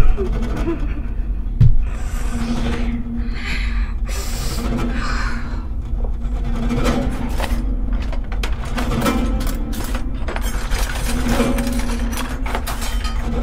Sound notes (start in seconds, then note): 6.8 silverware drawer rattles; 9.5 shuffling through utensils